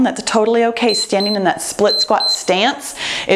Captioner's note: timer beeps